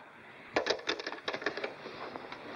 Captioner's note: phone clatters down